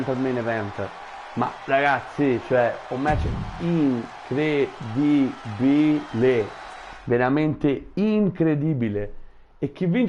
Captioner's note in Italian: Applauso